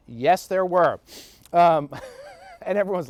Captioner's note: soft laughs